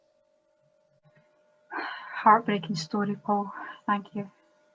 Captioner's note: sighs